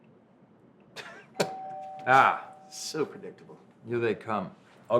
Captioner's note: doorbell ringing